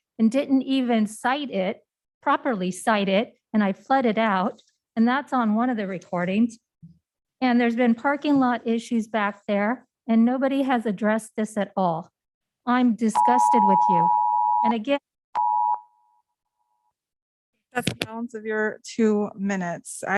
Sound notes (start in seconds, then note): 13.0 beep